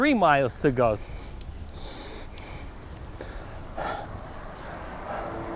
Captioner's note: breathing heavily